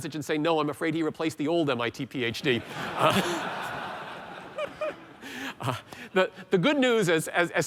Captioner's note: laughter